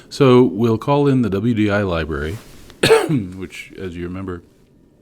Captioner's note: cough